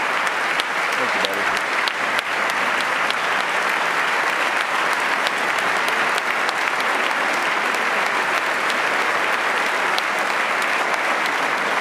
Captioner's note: applause